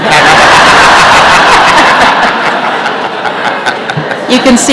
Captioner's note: laughter